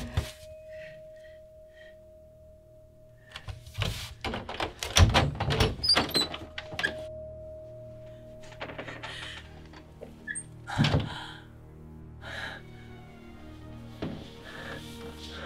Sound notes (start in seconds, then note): 0.0 door closing; 0.3 heavy breathing; 4.2 door opening; 9.9 door closing; 10.9 deep breathing